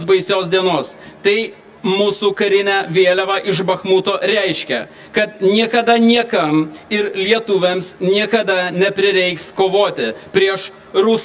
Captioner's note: Lithuanian